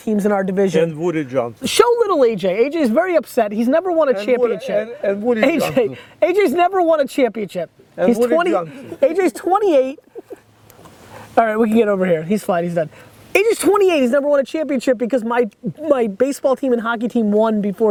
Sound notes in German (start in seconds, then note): 12.0 murmelt